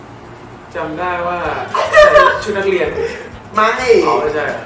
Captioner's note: Barcode laughs